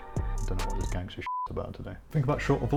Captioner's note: beep